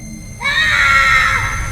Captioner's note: screaming